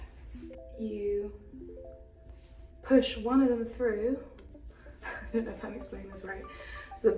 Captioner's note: laughs